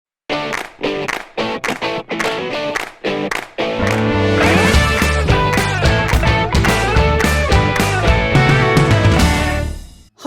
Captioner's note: claps